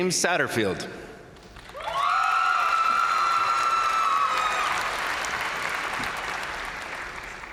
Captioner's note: crowd applauding; crowd cheering